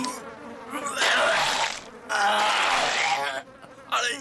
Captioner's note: vomiting, coughing